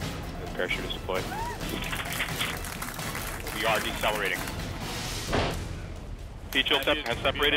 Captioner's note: applause